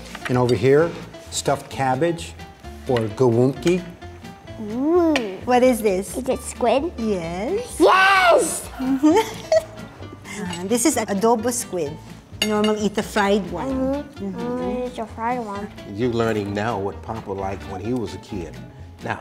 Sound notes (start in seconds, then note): 8.5 laughing